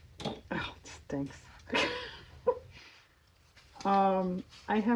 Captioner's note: laughs